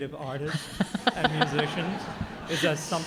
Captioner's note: audience laughing